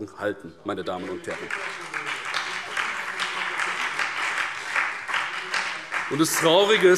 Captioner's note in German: Beifall BÜNDNIS 90/DIE GRÜNEN, SPD und DIE LINKE